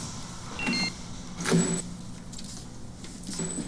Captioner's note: electronic lock beeping; doors clicking